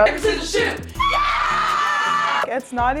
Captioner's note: cheering